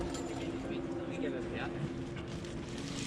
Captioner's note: indistinct chatter